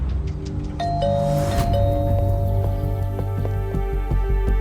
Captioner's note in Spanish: Timbre de la puerta